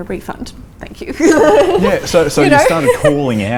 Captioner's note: laughs